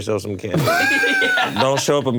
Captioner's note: laughs